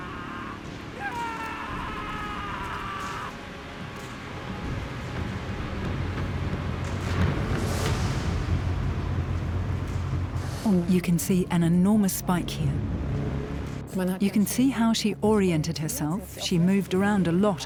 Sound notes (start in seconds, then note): 0.0 soldier screams; 2.1 screaming intensifies